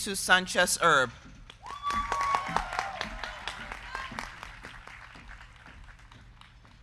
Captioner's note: crowd clapping; crowd cheering